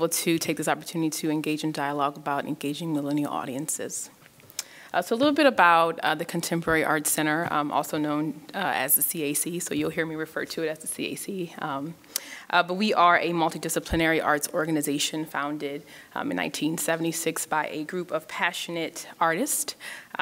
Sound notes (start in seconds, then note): none